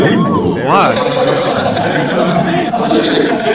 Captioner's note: haha